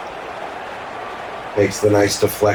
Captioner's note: crowd Noises